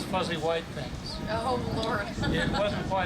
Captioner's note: laughs